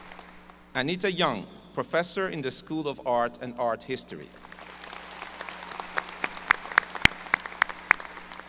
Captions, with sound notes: Anita Jung, Professor in the School of Art and Art History. ( audience applause )